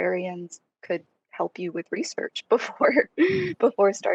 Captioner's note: laughing